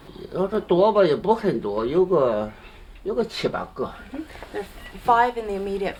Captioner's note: non-english speech